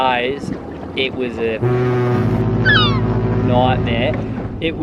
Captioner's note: barge horn